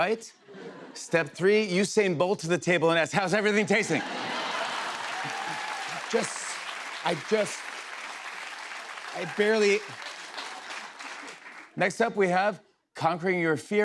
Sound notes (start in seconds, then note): 4.5 laughter, cheers, applause